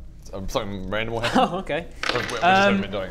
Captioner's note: laugh